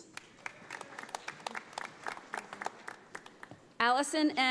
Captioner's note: audience applauding